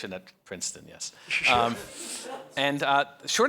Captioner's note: audience laughs